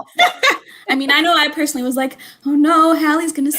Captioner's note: laughter